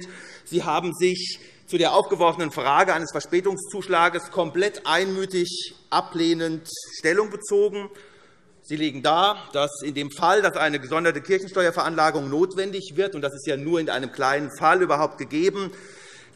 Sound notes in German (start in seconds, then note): none